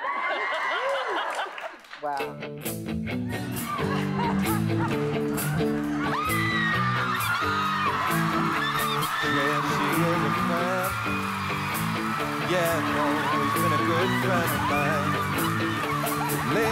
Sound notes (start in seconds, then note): 0.0 cheering; 6.0 screaming